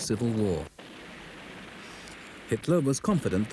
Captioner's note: cannon blasts